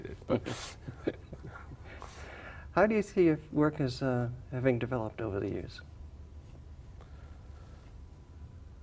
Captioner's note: chuckles